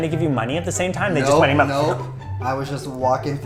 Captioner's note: slurb